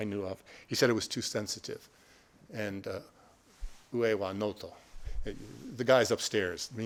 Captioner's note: speaking Japanese